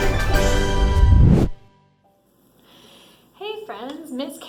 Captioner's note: graphics whooshing